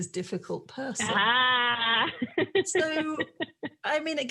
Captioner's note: laughing